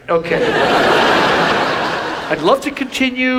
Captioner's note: audience laughs